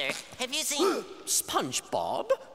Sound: gasping

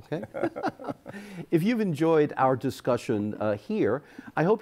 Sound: both laughing

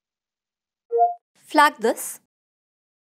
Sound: beep

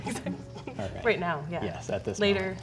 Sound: woman laughing

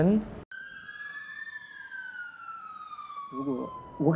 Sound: police siren

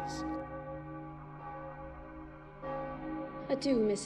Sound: bell tolling

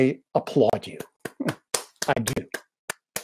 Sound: clapping

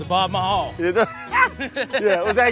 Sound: laughs

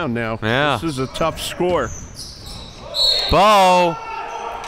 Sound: whistle blows

